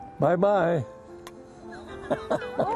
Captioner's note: laughter